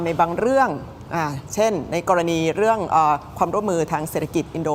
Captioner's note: none